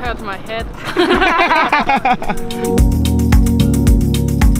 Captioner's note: women laughing; gentle dance music